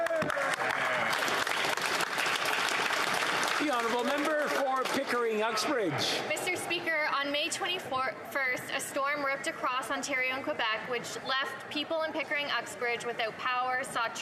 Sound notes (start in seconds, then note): 5.8 applause